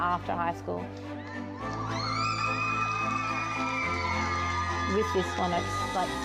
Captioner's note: triumphant music; everyone cheering